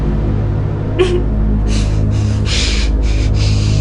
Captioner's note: crying